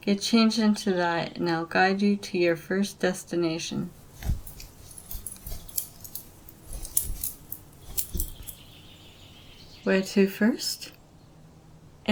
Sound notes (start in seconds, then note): 3.8 cloth rustling; 3.9 belt clicking